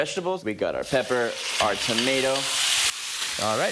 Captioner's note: food sizzling